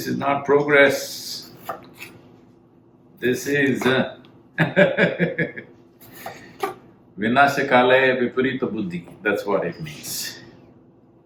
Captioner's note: laughs